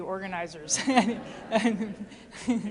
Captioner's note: laughter